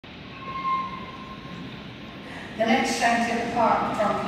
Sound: train screeching

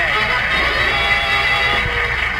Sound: audience applauds

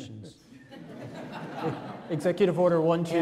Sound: audience laughs

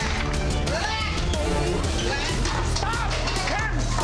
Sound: group yelling

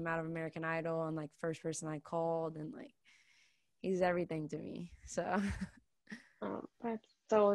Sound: laughs

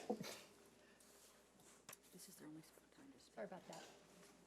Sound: board members whispering

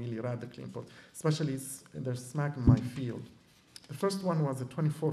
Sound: non-english

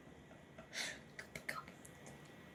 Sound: whispering

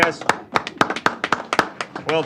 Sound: applause

